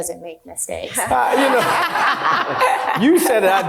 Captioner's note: group laughing